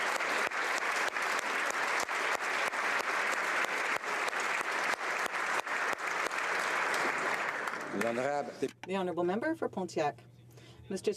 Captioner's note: applause